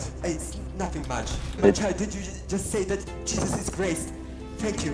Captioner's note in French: type parlant en russe dans le chat